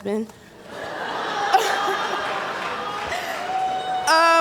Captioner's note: cheering & Laughter